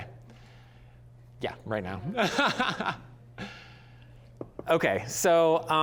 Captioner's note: laughing